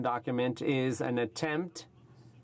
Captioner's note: speaking French